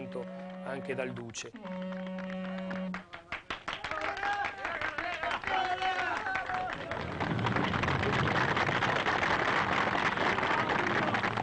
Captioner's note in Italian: Applauso